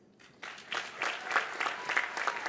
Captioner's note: applause